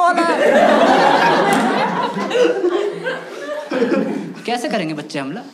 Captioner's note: laughs